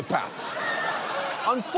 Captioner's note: audience laughs